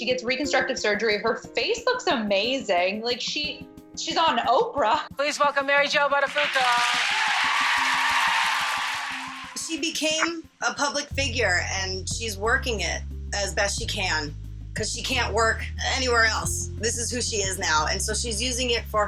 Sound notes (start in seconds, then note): 6.2 cheers and applause